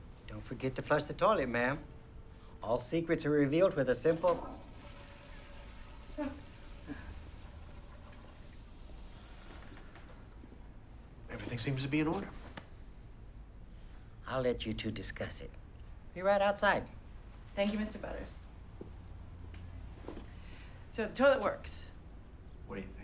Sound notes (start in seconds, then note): 3.8 toilet flushing; 6.4 Bryn chuckles